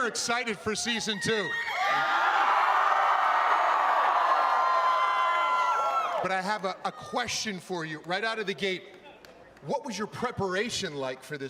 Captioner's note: cheering